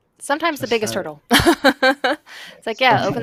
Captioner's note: laughs